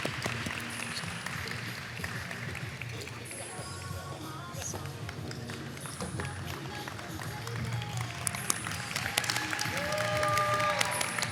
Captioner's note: applause